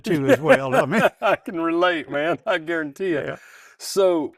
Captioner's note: laughs